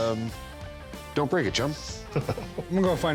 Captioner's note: chuckles